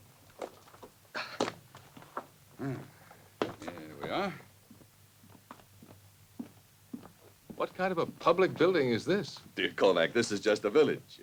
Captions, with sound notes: (Albert sighs) Mm, here we are. - What kind of a public building is this? - Dear Kovac, this is just a village.